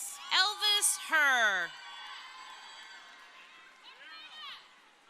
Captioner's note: crowd cheering